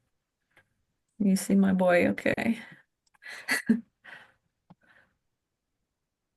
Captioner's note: chuckles